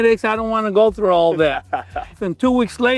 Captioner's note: laughs